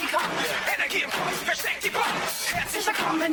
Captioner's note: shouting